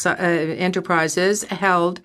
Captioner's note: speaking French